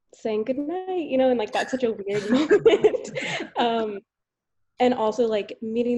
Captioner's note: laughs